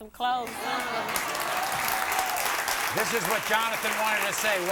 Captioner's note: applause